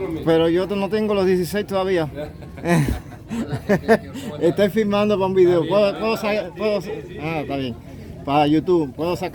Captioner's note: laughter